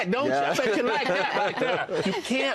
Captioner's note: laughter